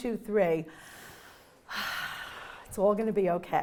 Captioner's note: inhaling